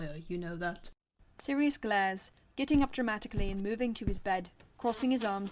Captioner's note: footsteps